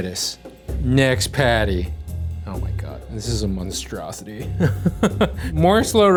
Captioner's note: laughing